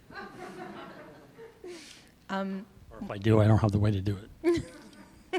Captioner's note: laughter